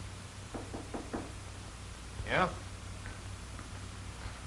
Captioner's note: knocking on door